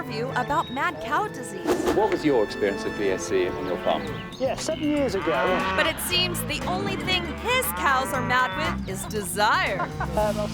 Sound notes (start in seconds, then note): 5.4 cow lowing